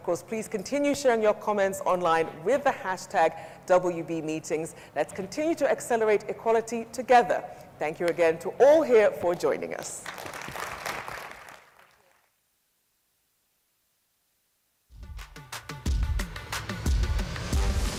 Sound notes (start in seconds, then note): 10.0 audience applauds